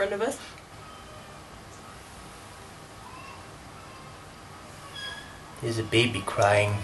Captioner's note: baby crying in the distance